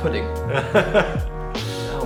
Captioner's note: laughing